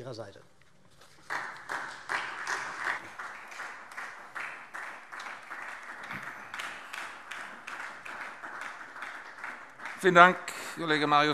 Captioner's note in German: Beifall SPD